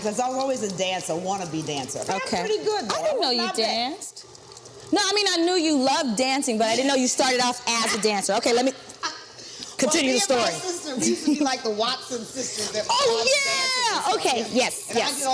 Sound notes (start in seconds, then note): 4.4 mixer whirring; 7.1 Vernee laughs; 11.0 laughs